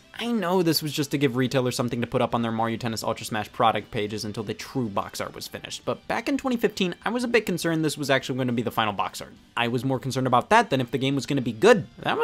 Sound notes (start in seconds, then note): none